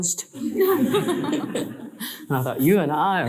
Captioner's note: audience laughing